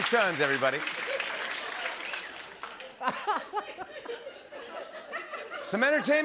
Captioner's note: laughter